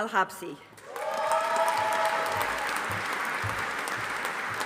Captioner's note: audience applauding